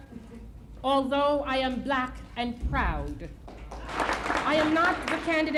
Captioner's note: applause